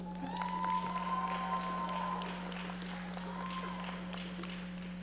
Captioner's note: audience applauding